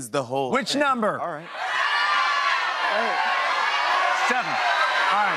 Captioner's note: audience shouting numbers